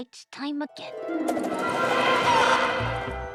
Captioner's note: suspenseful music; bird squawks